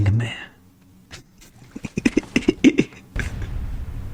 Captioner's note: laughs to myself